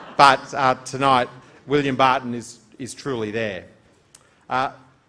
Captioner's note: laughter